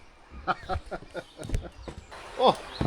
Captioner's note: laughter